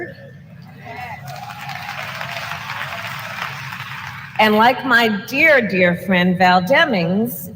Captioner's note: applause